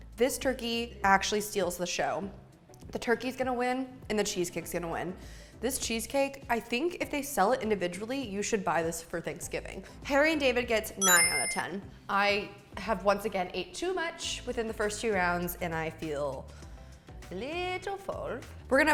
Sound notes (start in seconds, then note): 11.0 ding